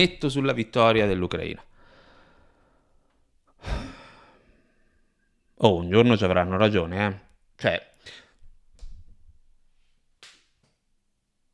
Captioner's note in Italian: sospira